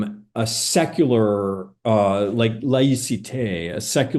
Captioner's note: speaking French